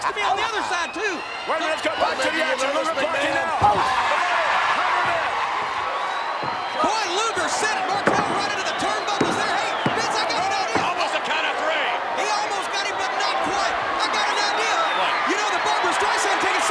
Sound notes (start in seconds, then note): 3.8 crowd cheering drowns out Vince